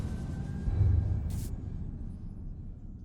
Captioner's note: zap